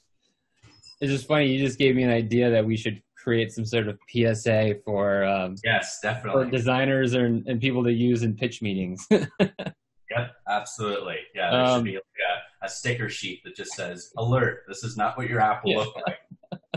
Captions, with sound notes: - It's just funny you just gave me an idea that we should create some sort of PSA for. - Yes, definitely. - For designers and people to use in pitch meetings. (laughing) - Yep, absolutely. Yeah, there should be a sticker sheet that just says, "Alert, this is not what your app will look like.